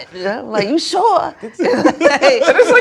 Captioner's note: laughter